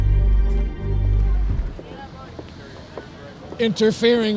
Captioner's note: people chattering indistinctly